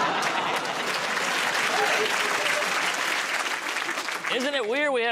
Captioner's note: laughter; applause